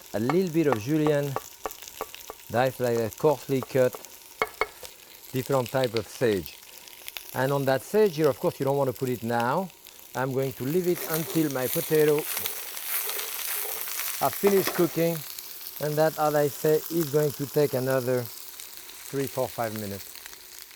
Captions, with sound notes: a little bit of julienne coarsely cut, (knife thudding) different type of sage. And on that sage here, of course, you don't wanna put it now. I'm going to leave it until my potato are finished cooking. (pan sizzling) And that, as I say, is going to take another three, four, five minutes.